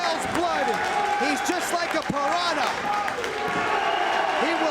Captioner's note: spectators cheering